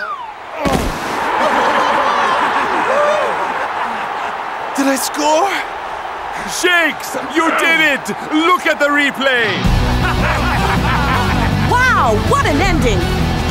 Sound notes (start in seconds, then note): 0.9 cheering